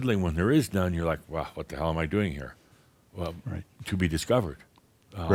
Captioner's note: none